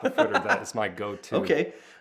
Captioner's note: laughing